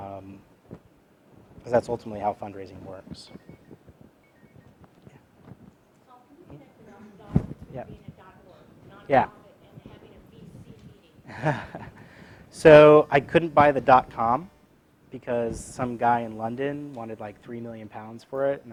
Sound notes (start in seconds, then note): 11.0 laugh